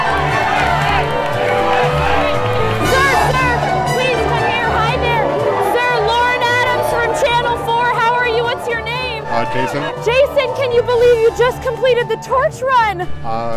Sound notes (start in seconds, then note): 0.0 cheers and applause; 1.3 chanting